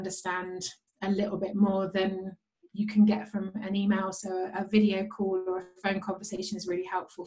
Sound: conversation

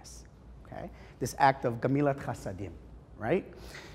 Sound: Hebrew

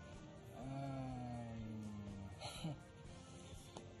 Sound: chuckles

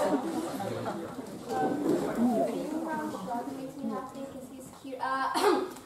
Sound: ahem

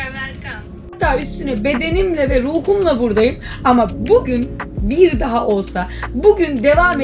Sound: speaking in foreign language

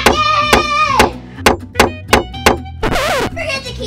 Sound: assistant knocks

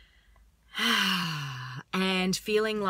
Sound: exhales

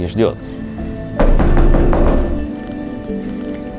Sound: knocking on the door

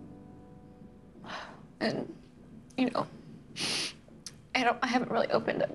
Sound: sighs

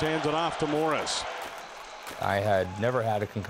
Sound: crowd noise

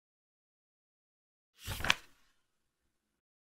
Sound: page flip sound

